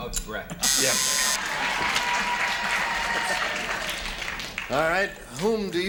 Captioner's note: buzzer